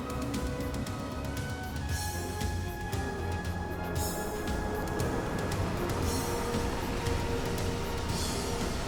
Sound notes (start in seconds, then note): 5.2 van rumbling